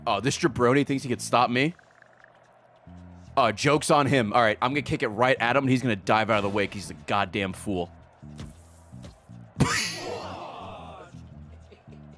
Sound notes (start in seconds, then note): 9.6 laughs